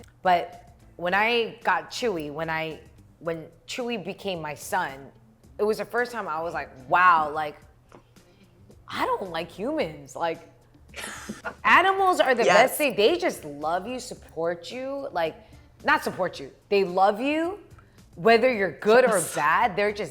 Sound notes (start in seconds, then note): 11.0 React laughs